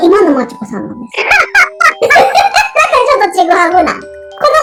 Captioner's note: laughs